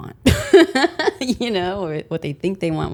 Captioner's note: laughs